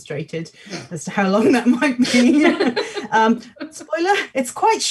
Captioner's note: laugh